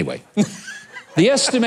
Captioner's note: audience laughing